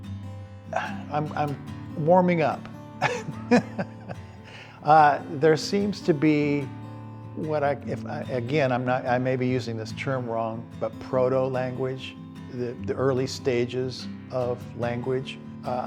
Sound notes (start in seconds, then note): 3.0 laughs